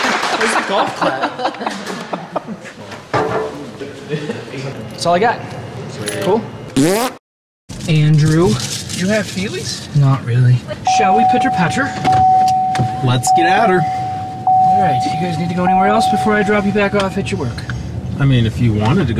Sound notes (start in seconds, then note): 6.4 raspberry Noise